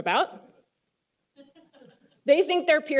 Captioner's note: laughter